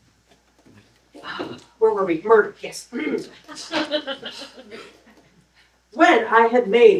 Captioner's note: laughter